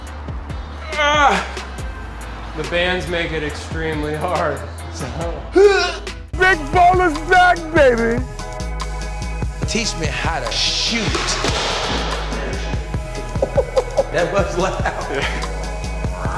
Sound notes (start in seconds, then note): 0.2 grunts; 5.6 grunts; 13.4 laughs